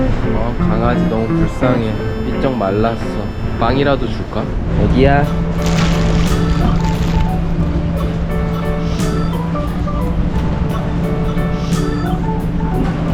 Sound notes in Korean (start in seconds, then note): 5.4 부시럭 소리에 깸